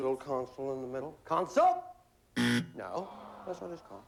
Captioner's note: buzzer